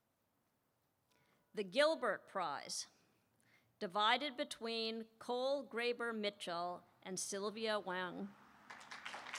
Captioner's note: applause